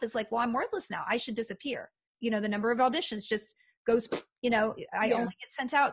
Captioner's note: raspberry noise